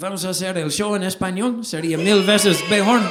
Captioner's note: speaks Spanish: Vamos a hacer el show en español